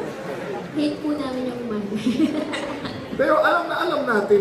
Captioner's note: laugh